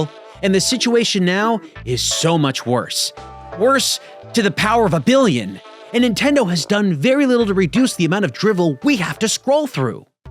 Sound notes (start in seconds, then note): none